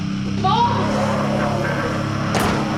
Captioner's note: demonic growls and snarls; door slams